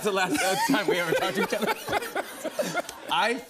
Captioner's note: laughs